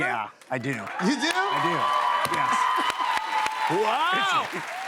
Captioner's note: cheers and applause